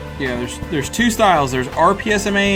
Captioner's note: voiceover